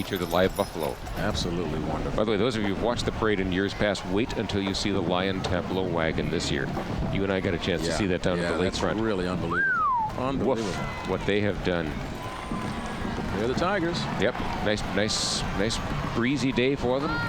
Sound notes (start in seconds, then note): 9.5 whistles